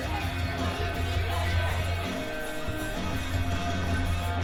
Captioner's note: approaching footsteps